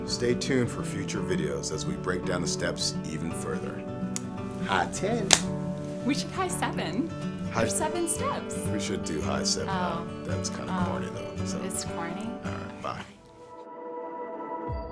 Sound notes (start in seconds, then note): 5.3 audible clapping sound